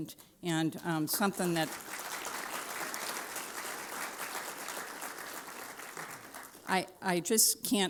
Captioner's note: applause